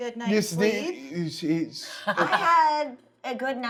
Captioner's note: laughing